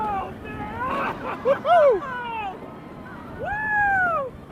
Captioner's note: screaming